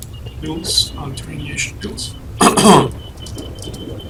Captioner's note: detector started plinging like crazy